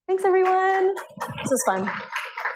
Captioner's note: applause